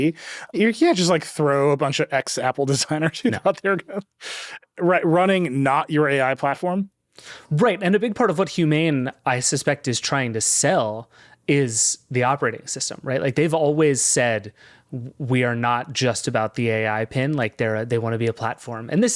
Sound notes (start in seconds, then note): 2.8 chuckles